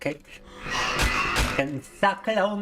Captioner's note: screaming